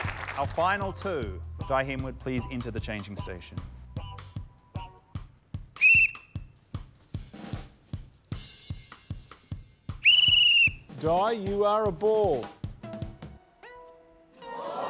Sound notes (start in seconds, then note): 5.8 blows whistle; 7.6 reggae music continues; 10.0 trills whistle